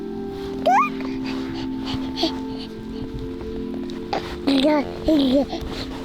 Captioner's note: light music; baby coos